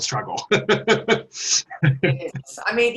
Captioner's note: laughs